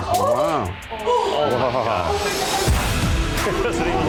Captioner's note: excited chatter